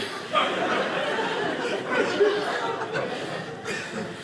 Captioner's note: audience laughing